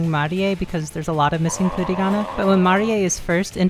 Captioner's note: pained groan